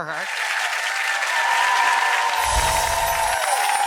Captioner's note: audience cheering